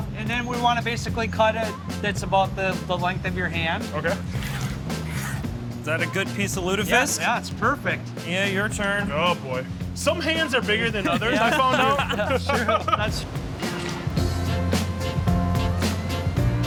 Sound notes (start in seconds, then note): 10.9 group laughs; 13.9 upbeat music